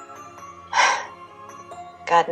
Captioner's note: CHARMAINE sighs